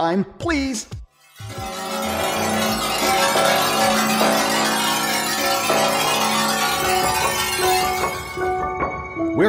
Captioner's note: machine noises